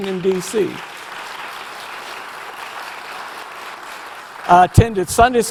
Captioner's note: audience applause